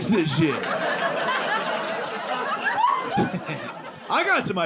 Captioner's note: audience laughing